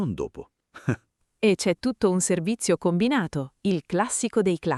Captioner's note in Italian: Haha